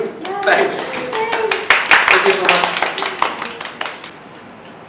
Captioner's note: applause